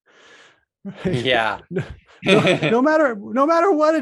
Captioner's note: laughs